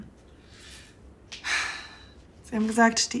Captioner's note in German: Seufzer